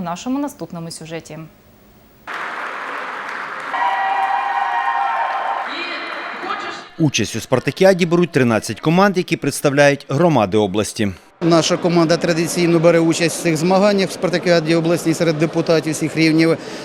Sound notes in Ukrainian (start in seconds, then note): 2.2 шум аплодисментів